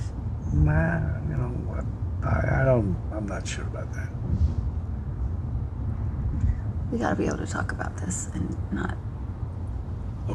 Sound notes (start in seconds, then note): none